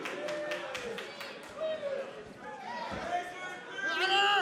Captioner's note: crowd shouting